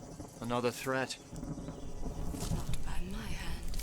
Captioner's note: thunder